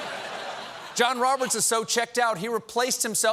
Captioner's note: laughter